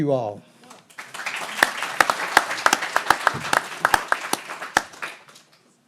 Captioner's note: everyone applauding